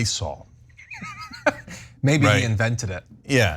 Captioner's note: laugh